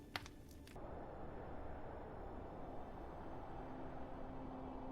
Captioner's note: wind howling